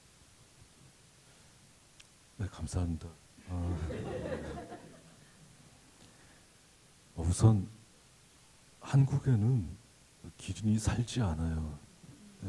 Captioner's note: speaking Korean